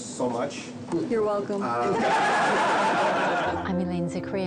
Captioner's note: crowd laughing